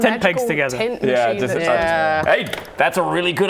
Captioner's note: pop!